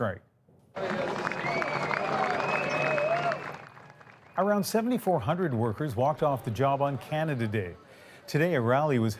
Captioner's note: applause